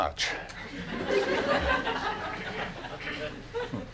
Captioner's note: laughing